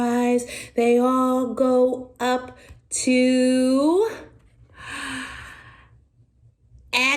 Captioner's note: gasp